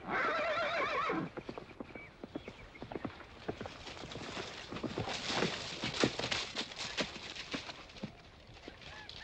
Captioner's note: horse neighing; hooves trotting